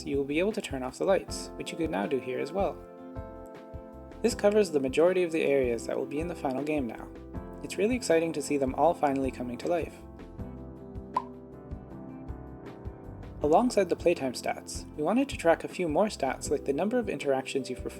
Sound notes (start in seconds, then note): 11.1 pop